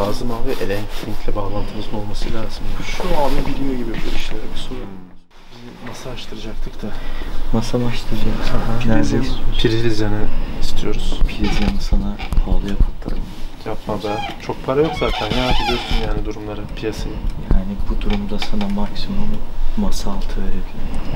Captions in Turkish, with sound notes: lazım abi elektrikle bağlantımız olması lazım şu abi biliyor gibi bu işleri, bir soralım biz bir masa açtıracaktık da masa mı açtıracaktınız? nerede istiyorsunuz? priz yanı istiyoruz priz yanı sana pahalıya patlar yapma be çok para yok zaten (koltuk gıcır gıcır) bu durumda sana maksimum masa altı verebilirim